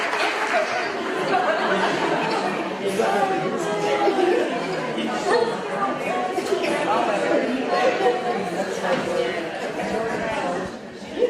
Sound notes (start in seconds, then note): 0.0 audience laughing; 5.5 audience chattering